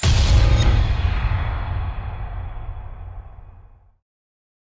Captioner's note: impact